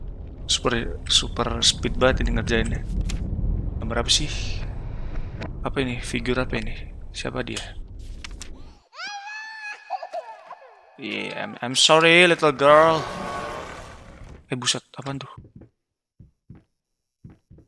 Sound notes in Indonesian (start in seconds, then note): 8.8 tangis bayi